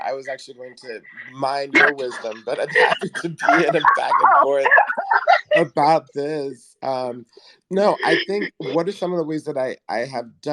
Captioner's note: both laugh